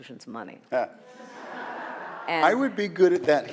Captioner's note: audience laughs